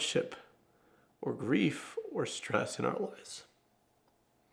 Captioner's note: sobs